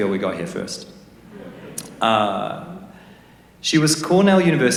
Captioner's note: laughter